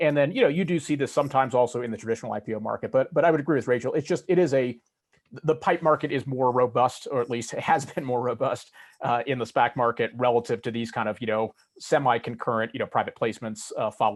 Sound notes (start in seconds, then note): 7.0 chuckles